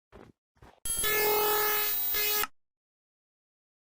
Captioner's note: electronic buzzing